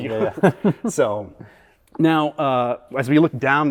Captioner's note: all laughing